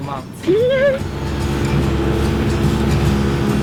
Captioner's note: laughs; soft music